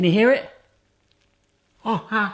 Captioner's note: sizzling